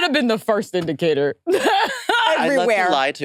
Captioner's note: laughs